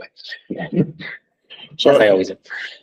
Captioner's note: chuckling